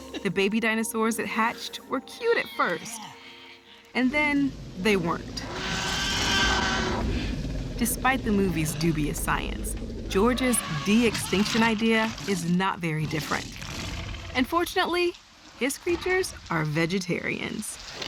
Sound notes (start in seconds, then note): 6.0 roaring